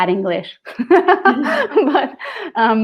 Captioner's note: laughing